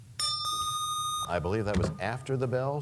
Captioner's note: bell rings, time expires